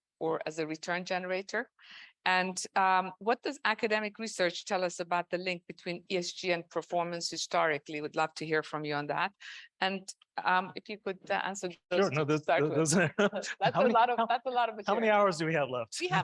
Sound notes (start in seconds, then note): 12.8 man chuckling